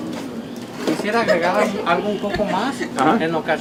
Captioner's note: cook in Spanish